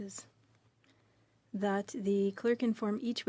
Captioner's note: speaking french